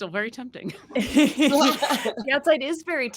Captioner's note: cast members laughing